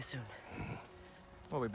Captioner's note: grunt